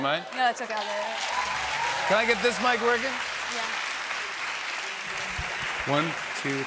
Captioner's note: cheers and applause